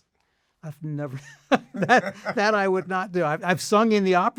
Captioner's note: laughs